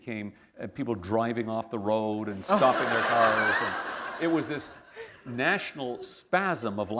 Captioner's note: laughter